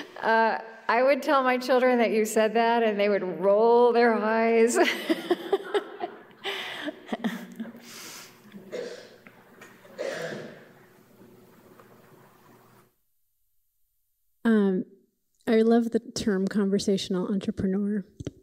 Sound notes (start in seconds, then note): 4.7 laughter